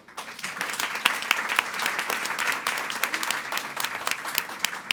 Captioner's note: audience applauding